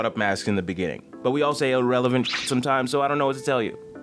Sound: beep

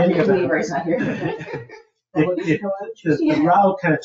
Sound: people chuckle

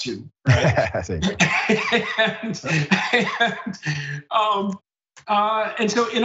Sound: laugh

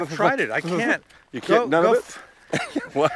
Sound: laughing

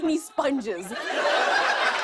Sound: laughter

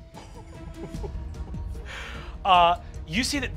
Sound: laughs breathlessly

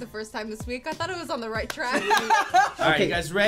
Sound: laugh

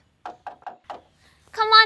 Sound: knocking

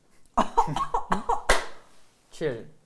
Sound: clap

